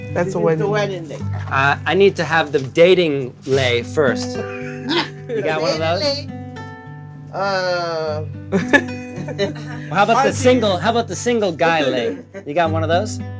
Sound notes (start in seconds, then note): 4.3 laughter; 8.5 laugther